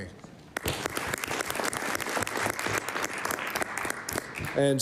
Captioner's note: applause